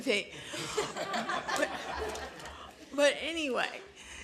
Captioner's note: laughter